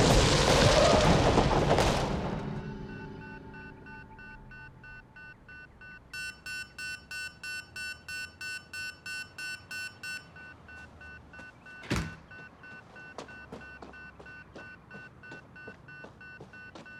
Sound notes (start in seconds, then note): 2.9 machine beeping